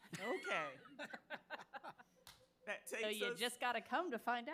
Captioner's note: board chuckling